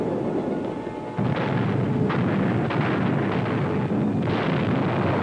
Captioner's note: explosions booming